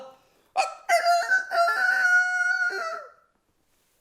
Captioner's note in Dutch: Geluid van een kraaiende haan